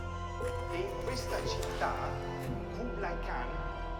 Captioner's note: speaking Italian